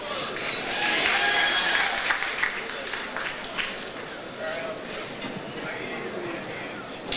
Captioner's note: audience applauds; audience cheers